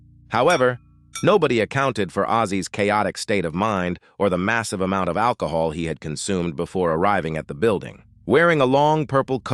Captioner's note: SFX: glass clinking